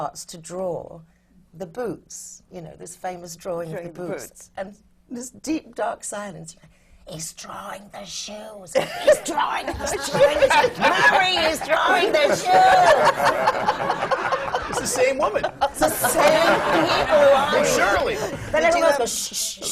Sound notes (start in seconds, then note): 7.8 whispers loudly; 15.2 laughter